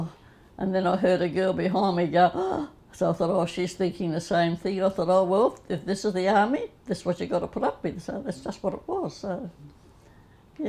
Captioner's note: gasp